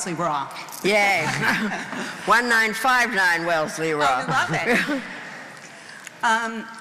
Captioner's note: laughing